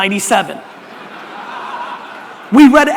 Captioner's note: audience laughter